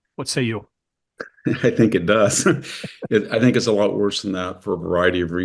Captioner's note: laugh